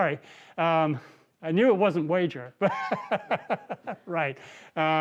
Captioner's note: laughs